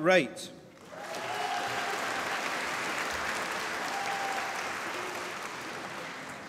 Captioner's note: applause